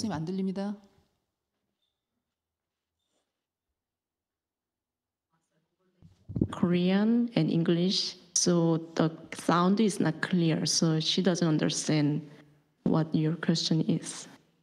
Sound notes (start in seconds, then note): none